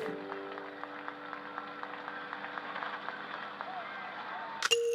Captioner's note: crowd cheering